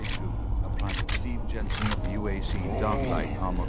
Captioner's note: grunting